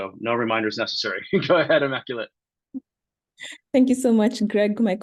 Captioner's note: laughs